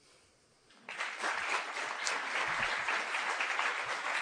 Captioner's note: applause